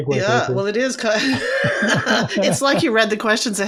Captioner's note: laughs; laughing